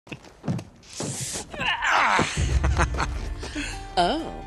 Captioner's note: Chloe and Nate Grunt and Laugh